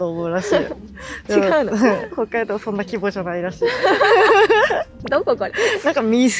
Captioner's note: laughs